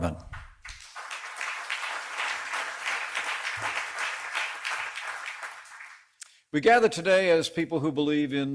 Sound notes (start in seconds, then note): 3.1 applause